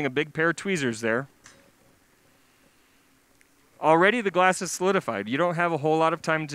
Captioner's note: pause